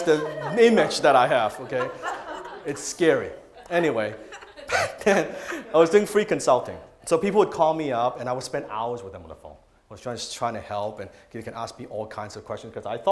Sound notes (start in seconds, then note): 4.7 laughing